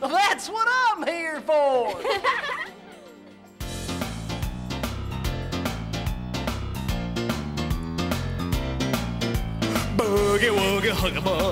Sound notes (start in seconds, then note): 1.9 everyone laughs; 2.6 boogie music